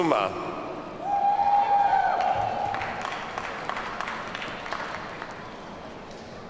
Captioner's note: audience cheers and applauds